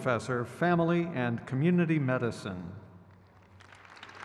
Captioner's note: crowd cheers